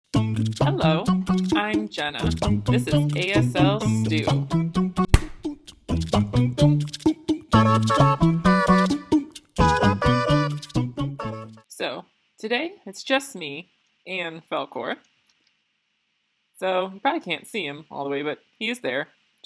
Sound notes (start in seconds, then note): 5.0 hand slap